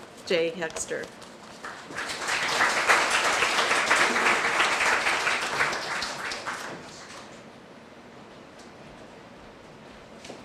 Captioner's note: applause